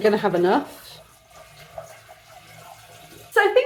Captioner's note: water pouring